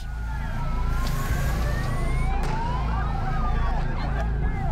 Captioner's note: siren